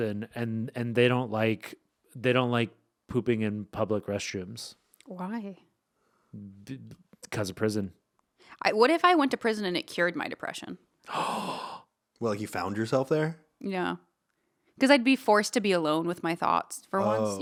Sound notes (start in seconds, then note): 11.0 gasping